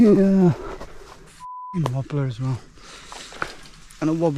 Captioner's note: beep